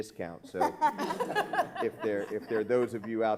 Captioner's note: laughing